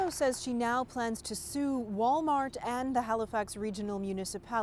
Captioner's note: applause